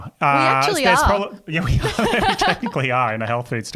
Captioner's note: laughing